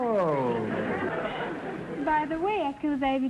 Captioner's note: audience laughter